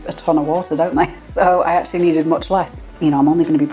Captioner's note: laugh